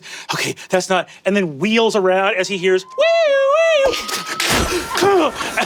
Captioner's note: mimics siren blaring; Brennan mimics glass shattering and impact pounding